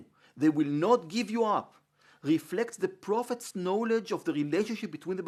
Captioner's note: Hebrew